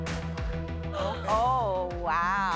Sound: gasps

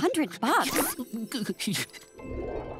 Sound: whimpering

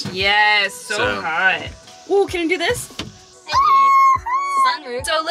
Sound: scream

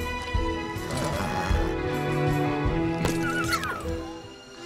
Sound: horse snorts

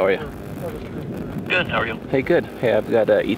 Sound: over phone

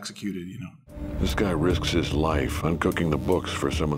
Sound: voiceover

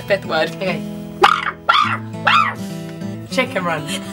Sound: squawks

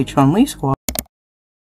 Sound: mouse Click

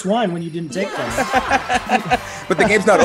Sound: laugh

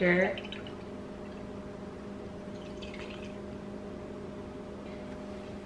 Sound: pouring drink

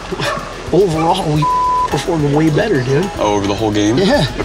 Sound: beep

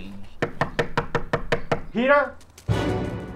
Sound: knock on door

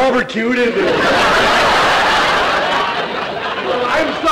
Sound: audience laughter

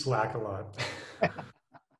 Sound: laughter

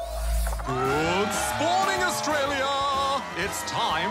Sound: cheering, applause

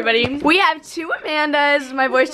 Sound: voice cracks

